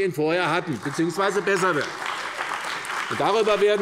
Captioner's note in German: Beifall bei der CDU und dem BÜNDNIS 90/DIE GRÜNEN